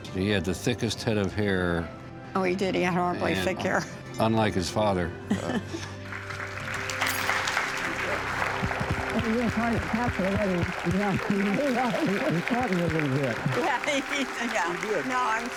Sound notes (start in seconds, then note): 5.3 laughs; 5.3 applause